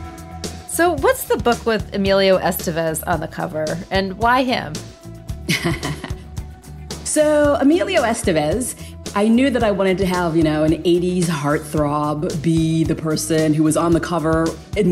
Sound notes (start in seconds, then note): 5.4 Quan laughing